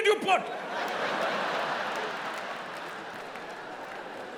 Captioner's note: audience laughing